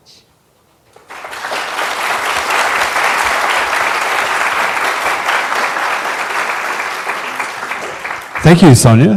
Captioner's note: applause